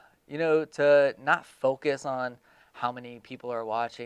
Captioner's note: sighs